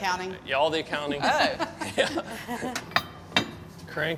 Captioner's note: laughing